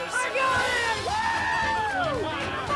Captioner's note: crowd cheering